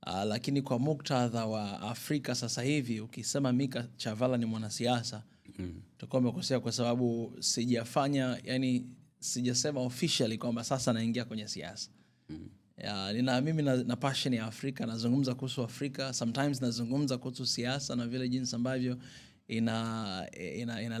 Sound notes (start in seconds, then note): 12.5 clearing her throat